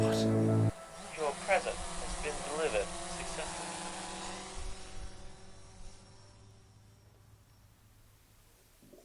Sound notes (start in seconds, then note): 1.2 robotic voice